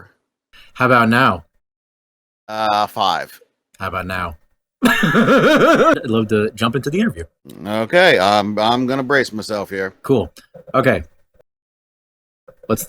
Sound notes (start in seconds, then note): 4.8 laughs to self